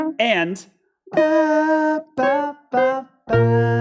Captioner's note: hums